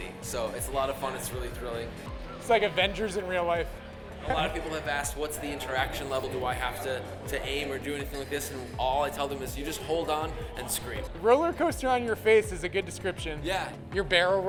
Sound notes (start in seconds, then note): none